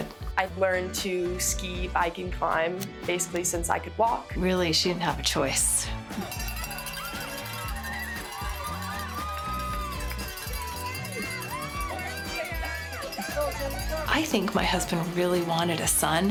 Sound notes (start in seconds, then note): 11.4 cowbell ringing